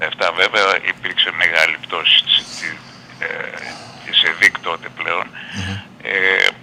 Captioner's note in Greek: χαχανίζει